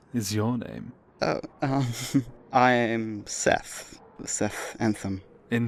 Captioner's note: laughs